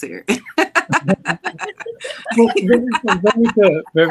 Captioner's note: all laughing